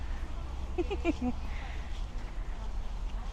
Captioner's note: giggles